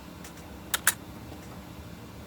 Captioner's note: hits space bar